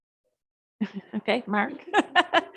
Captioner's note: chuckles